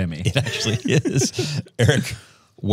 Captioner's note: both chuckling